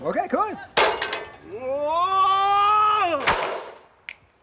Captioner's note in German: Schreien